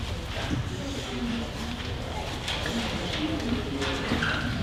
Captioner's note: audience chattering